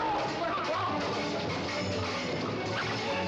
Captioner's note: ruffians shouting